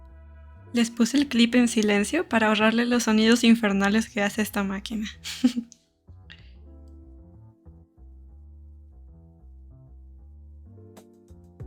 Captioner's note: haha